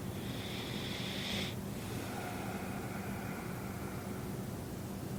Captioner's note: breathing noisily